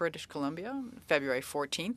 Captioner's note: speaking French